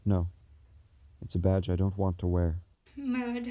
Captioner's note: none